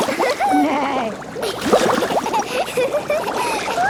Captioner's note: giggling, neighing; giggling